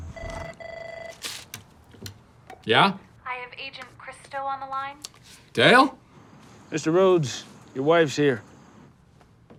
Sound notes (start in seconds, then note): 0.0 telephone ringing; 4.1 voice On Phone